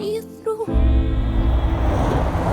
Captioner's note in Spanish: crujido de grava